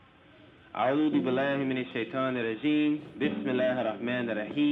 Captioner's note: speaking Arabic; continues speaking in Arabic